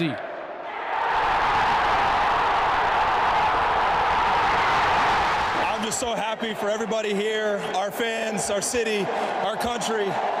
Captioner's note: cheers and Applause